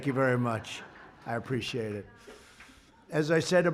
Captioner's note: laughter